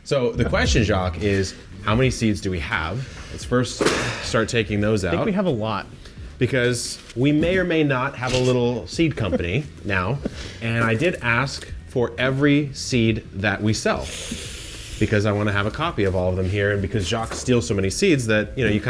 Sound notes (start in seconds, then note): 9.7 laughs